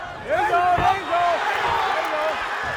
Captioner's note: crowd cheering